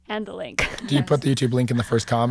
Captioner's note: laughing